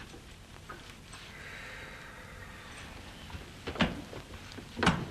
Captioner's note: Horton sighs